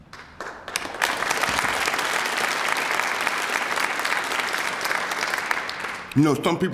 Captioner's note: applause